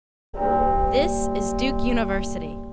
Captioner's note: bell chiming